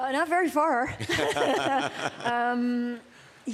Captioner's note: laughter